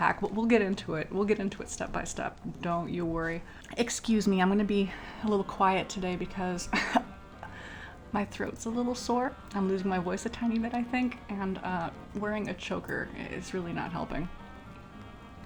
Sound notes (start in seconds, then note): 6.8 cough